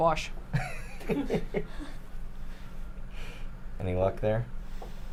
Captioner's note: laughs